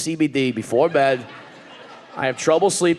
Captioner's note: audience laughing